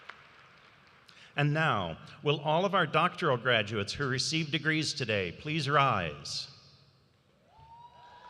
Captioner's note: applause